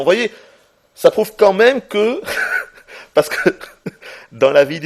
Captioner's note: giggles